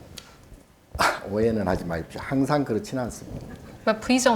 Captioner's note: speaking Korean